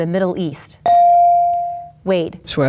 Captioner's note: bell dings